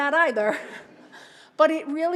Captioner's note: laughter